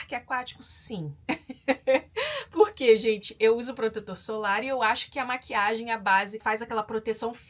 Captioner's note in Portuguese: risadas